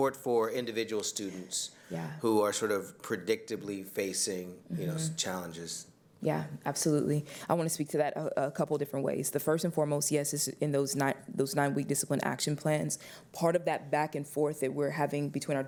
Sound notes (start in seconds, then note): 2.5 away from mic